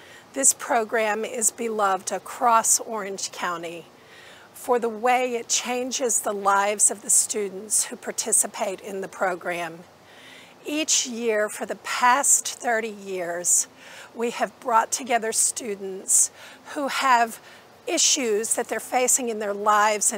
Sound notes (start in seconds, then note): none